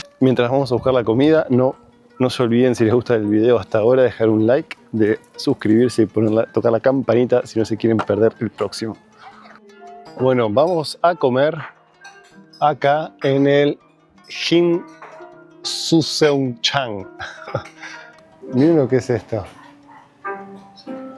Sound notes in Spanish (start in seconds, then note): 17.1 risas